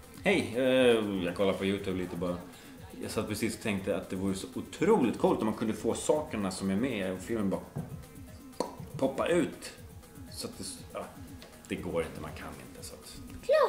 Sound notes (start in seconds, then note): 8.6 plop